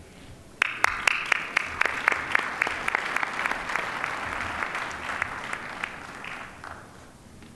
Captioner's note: applause